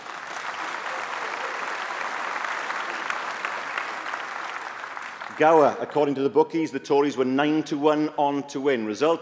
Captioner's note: applause